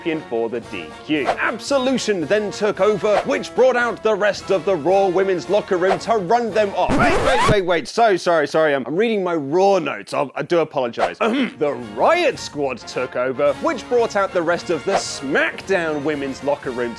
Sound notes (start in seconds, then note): 6.8 record scratch